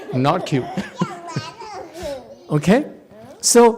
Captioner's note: laughs